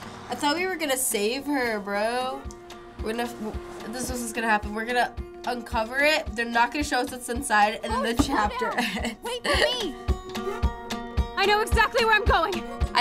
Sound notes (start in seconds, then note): 8.0 laughs